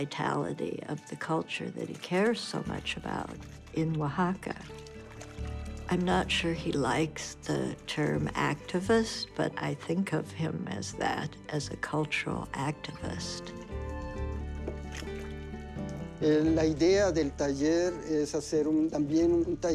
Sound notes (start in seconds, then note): 15.0 speaking spanish